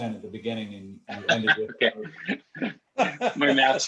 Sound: laughter

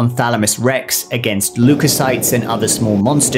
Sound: canon hisses

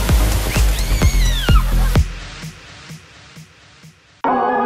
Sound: water splashing; squealing

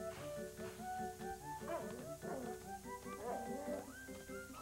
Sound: barking

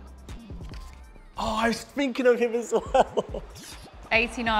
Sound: laughter

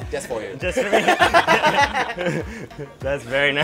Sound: laughs

